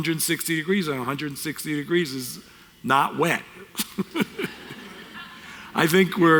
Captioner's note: audience Laughter